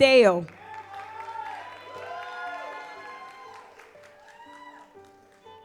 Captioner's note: audience applauds